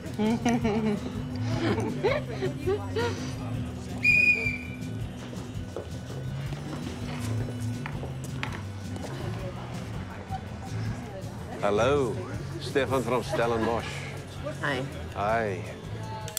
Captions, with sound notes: [Awkward laughter] [Whistle blows] Hello, Stefan from Stellenbosch. -Hi. -Hi.